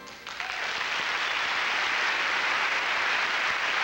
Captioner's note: applause